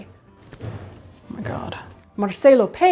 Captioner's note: metal banging